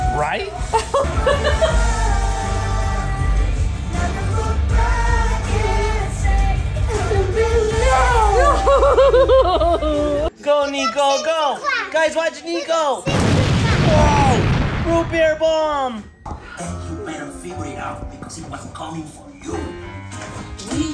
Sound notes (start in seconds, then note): 1.3 music playing in background; 8.3 laughing; 13.0 bomb exploding